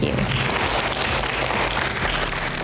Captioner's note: clapping